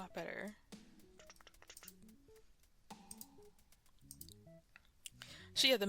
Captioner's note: whispering